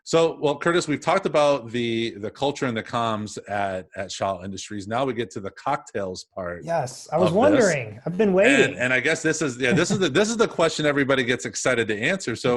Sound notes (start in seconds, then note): 9.6 laughs